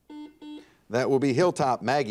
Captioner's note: buzzer dings